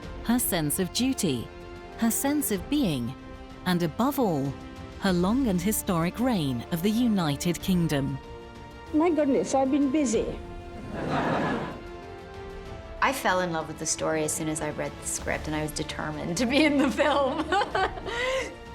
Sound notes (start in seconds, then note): 10.7 audience laughs; 11.9 triumphant music